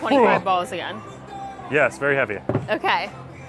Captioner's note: groans